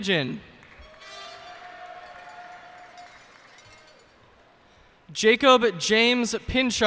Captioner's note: cheers and applause